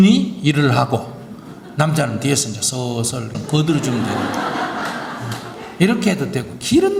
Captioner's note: audience Laughter